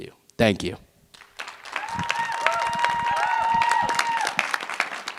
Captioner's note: cheering, applause